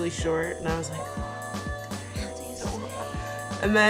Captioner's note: whispering